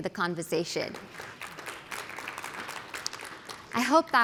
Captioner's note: applause